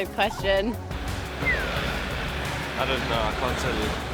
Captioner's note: whistles softly